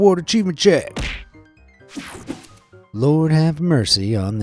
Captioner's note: slapping sound; screen whooshing